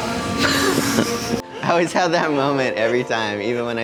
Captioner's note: lively upbeat music; laughs